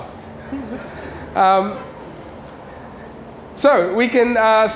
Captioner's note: laughter